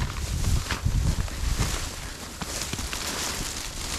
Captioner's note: leaves rustling